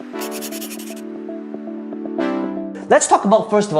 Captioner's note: upbeat music; chalk scratching